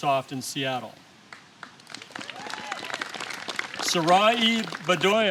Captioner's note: applause